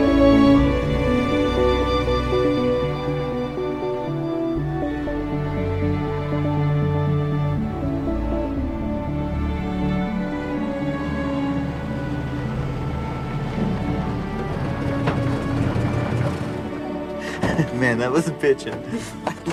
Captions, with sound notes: (engine humming) (crickets chirping) (laughs) Man, that was a pitching.